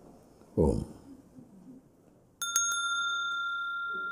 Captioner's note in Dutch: rinkelt bel